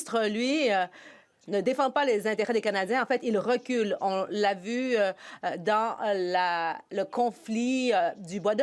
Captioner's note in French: voix de l'interprète